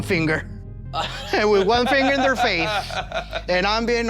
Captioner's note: laughing